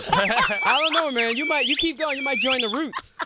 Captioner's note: laughter